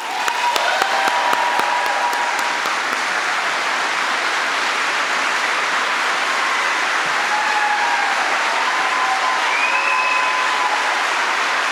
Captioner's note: applause